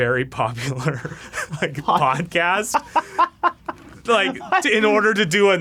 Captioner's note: laughing; laughs